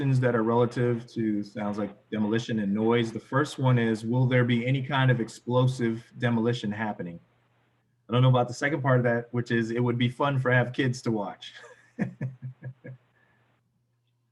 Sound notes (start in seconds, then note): 11.7 laughs